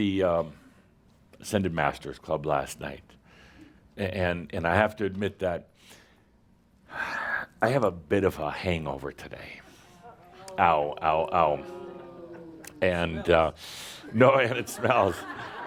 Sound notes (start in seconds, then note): 10.1 audience says “Ohh”